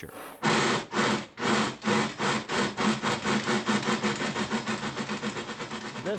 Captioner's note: chuffing